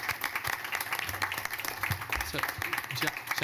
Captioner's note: applause